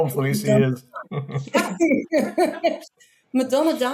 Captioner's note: laughs